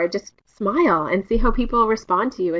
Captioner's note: none